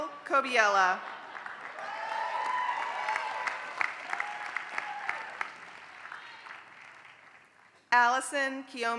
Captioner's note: applause